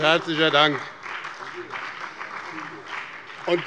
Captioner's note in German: Beifall